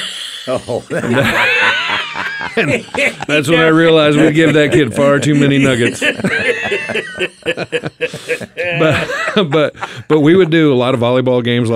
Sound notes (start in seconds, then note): 0.1 group laughs; 7.1 laughs